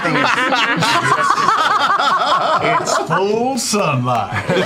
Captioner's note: laughter; McCree voice